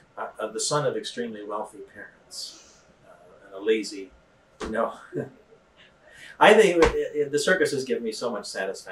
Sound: laughs

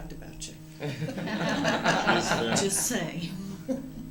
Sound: laughter

